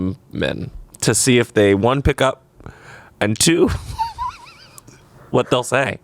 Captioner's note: laughs